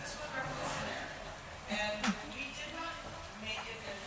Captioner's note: woman's Voice